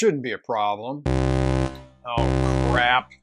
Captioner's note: alert